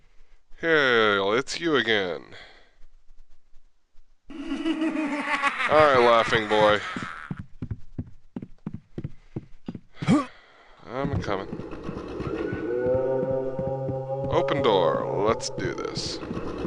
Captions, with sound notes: Heeeeel--it's YOU again. [laughing] All right, "Laughing Boy". I'm a-comin'. [scream] [scream] [distant groan] Open door. Let's do this.